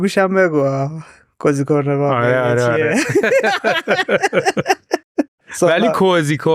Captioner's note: laughs